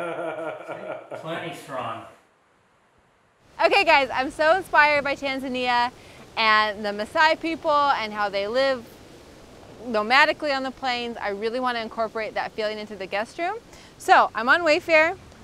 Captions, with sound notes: - [Male Voice] It's plenty strong. - Okay guys, I'm so inspired by Tanzania and the Masai people and how they live nomadically on the plains. I really want to incorporate that feeling into the guest room, so I'm on Wayfair